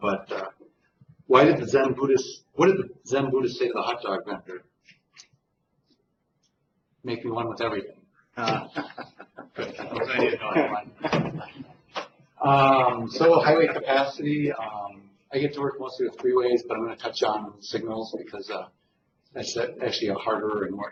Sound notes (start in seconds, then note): 11.4 laughter